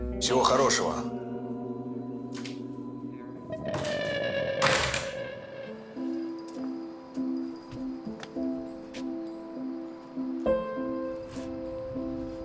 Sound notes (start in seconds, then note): 4.5 door clicks shut; 5.5 sad music